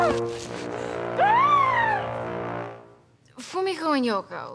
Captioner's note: groaning in pain; Jen screams